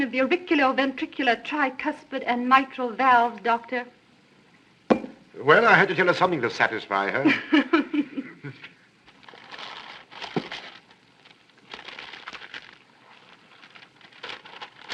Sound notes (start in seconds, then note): 9.1 laughs